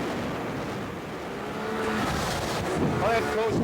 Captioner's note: boat droning; waves crashing; wind whooshing